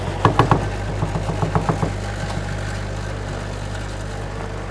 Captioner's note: machine whirring